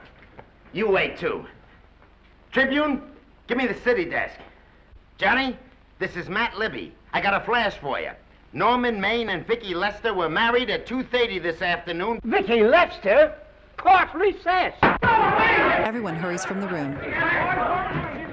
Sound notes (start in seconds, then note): 15.1 crowd shouting indistinctly